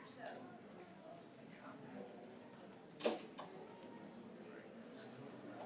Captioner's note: participants chatter